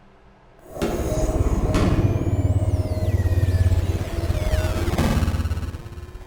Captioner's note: game shuts down